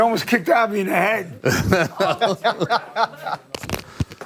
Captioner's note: laughter